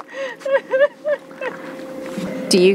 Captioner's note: laugh